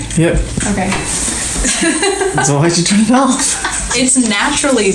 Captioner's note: laughs